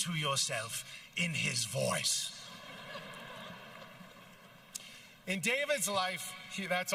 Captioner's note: with accent